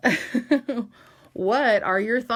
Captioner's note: laughs